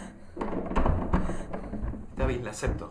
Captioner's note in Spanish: Golpes